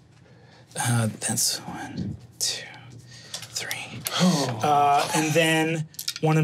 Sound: sighs

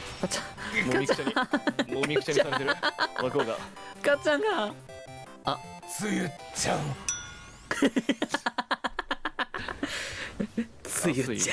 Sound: laughing

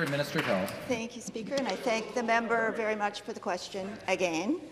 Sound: applause

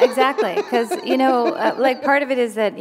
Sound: laughter

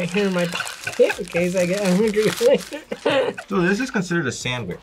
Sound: laughs

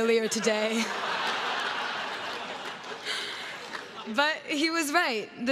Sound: crowd laughs

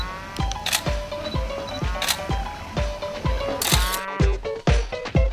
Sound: camera shutter clicking

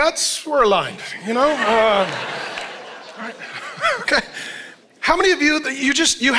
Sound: congregation laughing

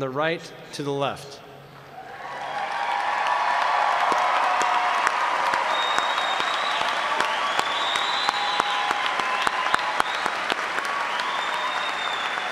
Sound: applause

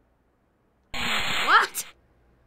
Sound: saw buzzes

